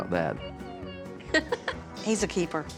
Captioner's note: laughs